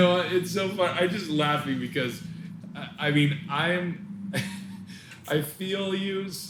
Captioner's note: laughing